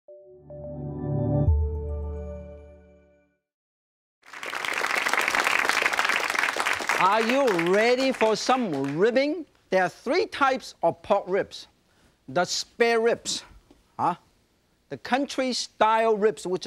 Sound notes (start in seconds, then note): 0.1 joyful music; 4.2 audience claps